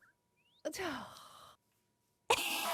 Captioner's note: sighs